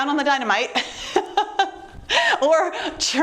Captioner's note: chuckles